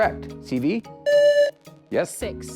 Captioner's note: buzzer